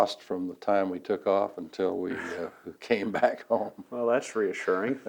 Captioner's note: laughs